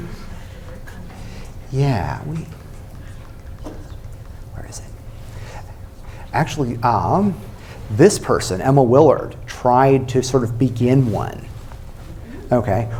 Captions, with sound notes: [whispering] Where is it? Actually, um, this person, Emma Willard, tried to, sort of, begin one, okay?